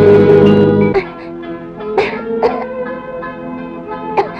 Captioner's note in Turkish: Öksürükler